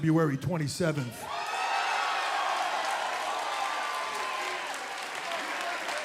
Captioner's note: cheers and applause